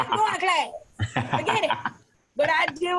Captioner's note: laughs